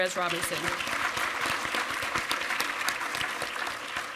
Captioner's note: applause